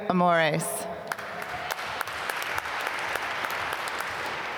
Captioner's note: applause